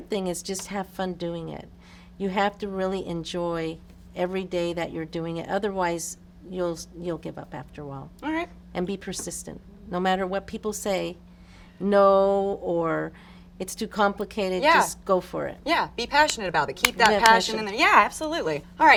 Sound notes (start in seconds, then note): 16.8 hands clapping